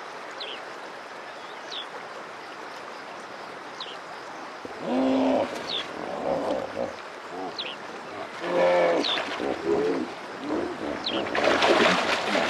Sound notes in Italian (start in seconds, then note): 1.3 cinguettii; 6.0 verso di ippopotamo; 8.3 verso di ippopotamo